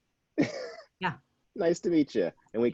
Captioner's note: chuckles